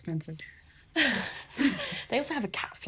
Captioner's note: everyone laughs